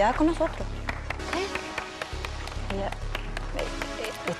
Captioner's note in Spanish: Aplausos de solamente Yésica